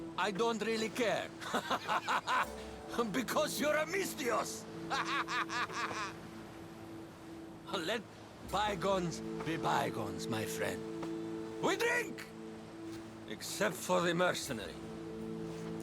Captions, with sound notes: ...I don’t really care... (laughs) ...because you’re a MISTHIOS! (laughs) Let.. bygones be bygones, my friend. WE DRINK! Except for the mercenary.